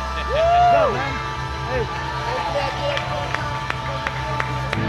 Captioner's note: applause